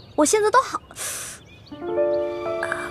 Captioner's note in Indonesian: Menghela napas